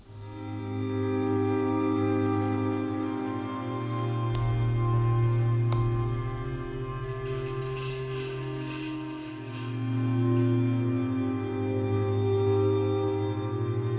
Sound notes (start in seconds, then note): 0.1 meditative music; 6.9 temple bell rattling; 10.9 meditative music